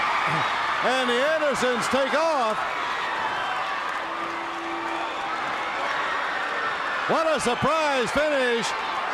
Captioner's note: crowd cheering